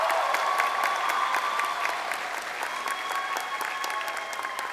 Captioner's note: crowd cheering